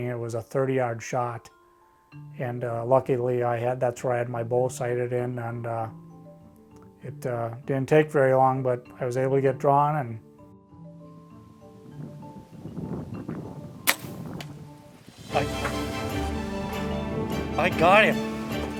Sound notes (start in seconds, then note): 13.8 plucks bow string; 15.0 lively music